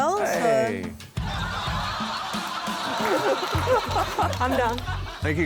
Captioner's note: laughter